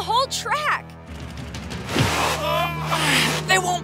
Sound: grunting

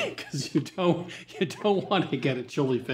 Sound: laughing

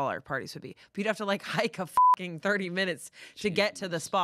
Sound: beep

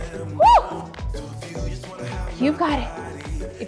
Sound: sighs

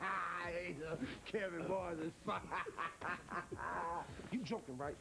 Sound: laughs

